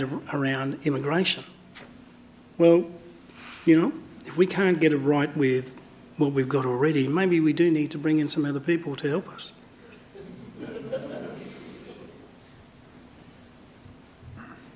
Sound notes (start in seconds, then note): 10.1 laughter